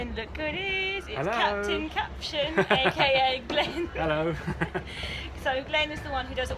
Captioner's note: both laugh